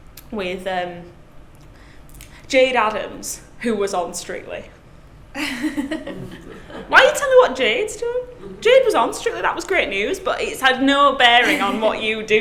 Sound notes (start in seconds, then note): 5.4 laughs